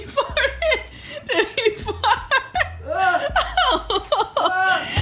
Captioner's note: laughs